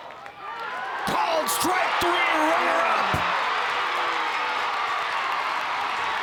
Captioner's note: crowd cheers